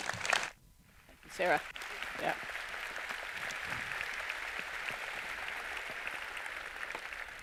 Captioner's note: applause